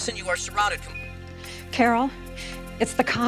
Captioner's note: phone beeps